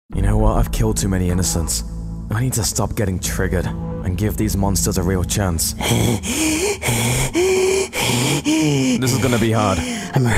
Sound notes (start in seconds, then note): 5.7 heavy breathing